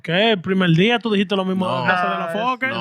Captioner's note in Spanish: Hablando en idioma extranjero